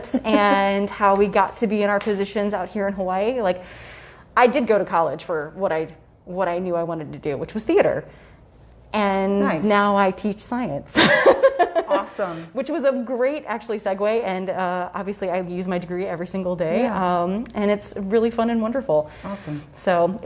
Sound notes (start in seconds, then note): 11.7 laughs